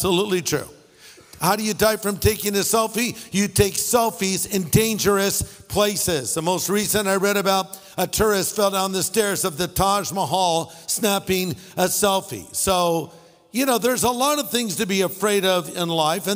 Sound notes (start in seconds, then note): none